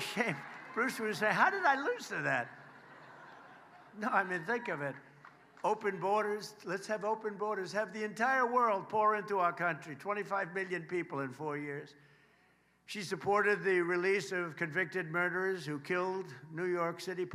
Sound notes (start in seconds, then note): 3.6 applause